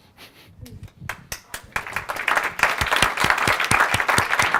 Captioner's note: audience applauds